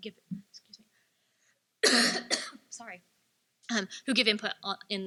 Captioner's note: coughs